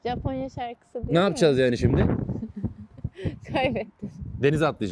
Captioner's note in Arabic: ضحكة